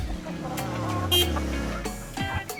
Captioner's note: upbeat music; horn honks